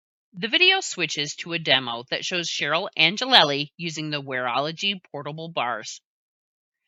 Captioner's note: voiceover